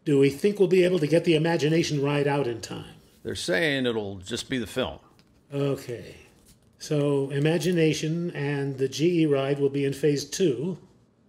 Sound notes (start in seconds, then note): none